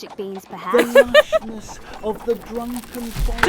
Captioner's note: Autumn laughs